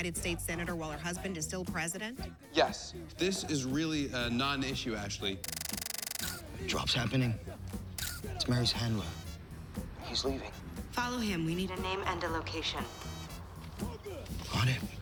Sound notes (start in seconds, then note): 5.4 <i> camera shutter clicking</i>